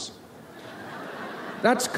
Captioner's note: audience laughs